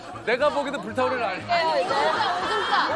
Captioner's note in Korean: 피식